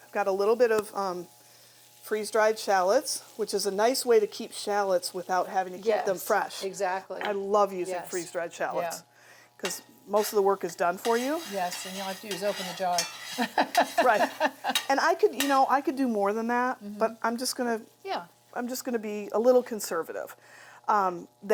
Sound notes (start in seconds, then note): 13.3 laughs